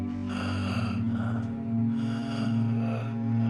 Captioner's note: ragged breathing